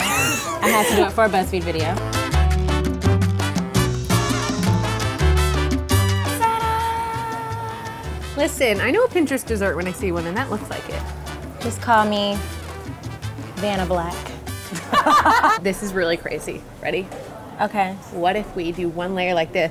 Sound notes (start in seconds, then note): 0.0 laughter; 3.0 mariachi music; 14.7 laughter